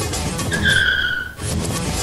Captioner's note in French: bruits de frein